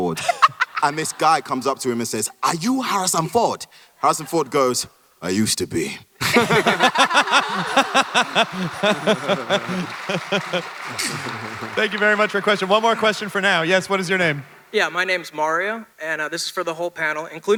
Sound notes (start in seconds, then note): 0.0 Ridley laughs; 6.1 audience applauds; 6.1 panelists laugh